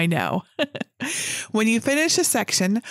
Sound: chuckling

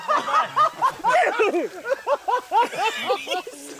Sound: laughing

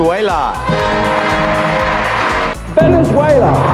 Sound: audience cheering

